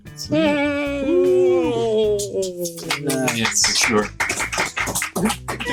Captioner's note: all cheer, clap